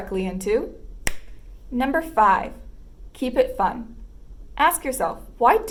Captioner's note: snap